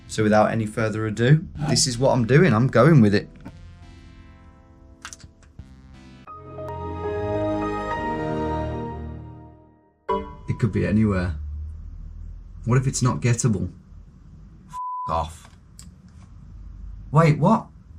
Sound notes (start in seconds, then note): 3.7 tranquil electronic music; 6.3 startup music; 14.7 beep